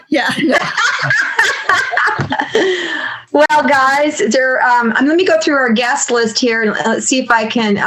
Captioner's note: laughter